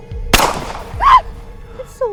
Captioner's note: gun fires